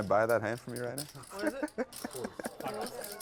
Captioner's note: laugh